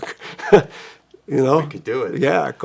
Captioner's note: chuckles